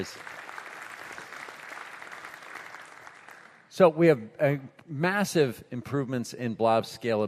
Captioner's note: applause